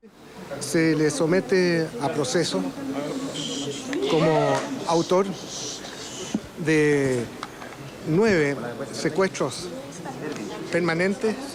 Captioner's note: speaking spanish